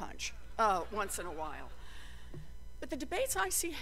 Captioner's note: laughter